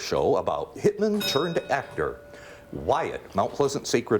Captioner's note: bell rings